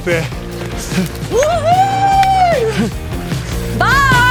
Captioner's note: yelling